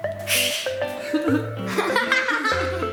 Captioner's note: laughter; hissing; bright music